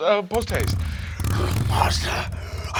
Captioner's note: motorcycle revs engine